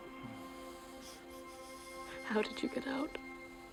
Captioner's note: sniffing